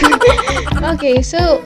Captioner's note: laughs